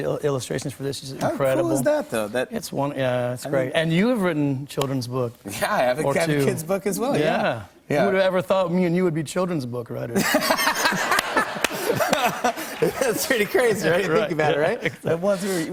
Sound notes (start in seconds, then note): 10.1 laughter